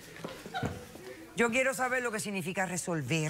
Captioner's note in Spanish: risas del público